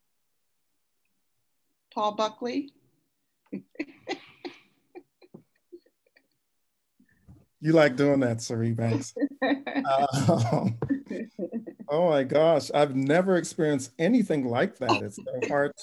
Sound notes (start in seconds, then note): 8.8 both laugh